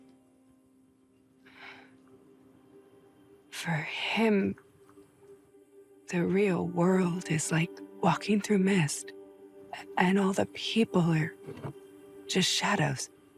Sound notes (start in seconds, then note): 1.6 gasps softly